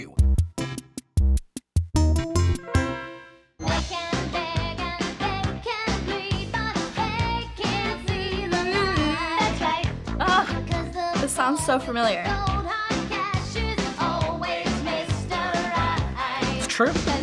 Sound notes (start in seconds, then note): 0.1 quirky interlude; 7.5 humming beat